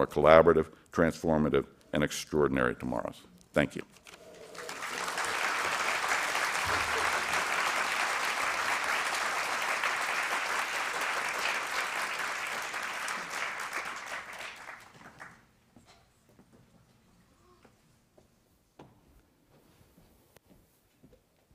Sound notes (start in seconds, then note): 4.2 applause